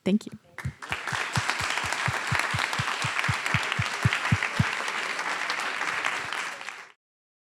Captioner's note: applause